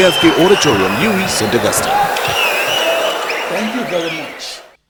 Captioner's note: wild applause and cheering for 22 seconds